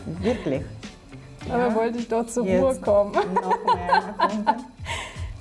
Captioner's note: laughing